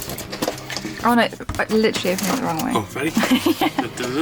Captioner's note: laughing